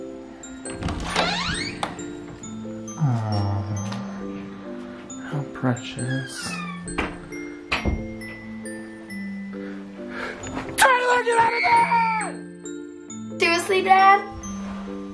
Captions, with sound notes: (door creaking) (snoring) How precious. Taylor, get out of bed. - Seriously, dad?